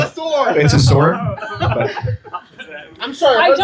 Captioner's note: laughter